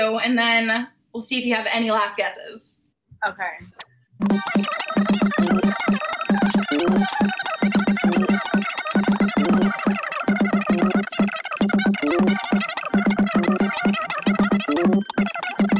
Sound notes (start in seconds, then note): 4.2 sped-up audio